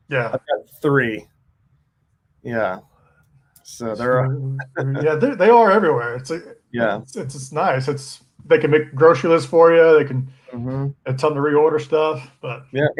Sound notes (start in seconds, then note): 3.8 chuckles